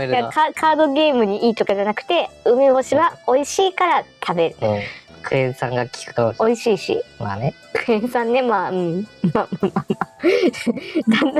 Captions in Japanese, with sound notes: カードゲームに良いから とかじゃなくて 梅干しは美味しいから食べる クエン酸が効くかもしれない 美味しいし クエンさんね(苦笑)